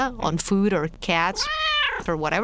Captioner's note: meow